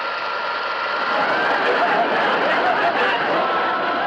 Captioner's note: audience Laughing